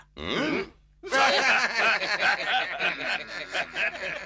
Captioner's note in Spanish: ríen